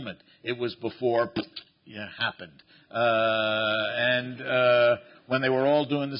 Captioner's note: pops